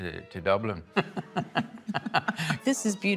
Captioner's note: laughter